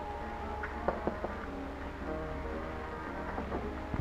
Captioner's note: knocking